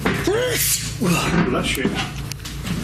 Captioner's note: loud sneezing